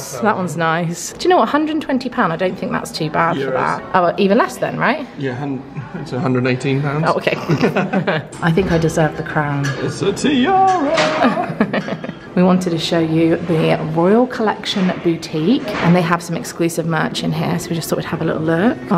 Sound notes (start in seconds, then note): 7.4 both laugh; 10.9 chuckles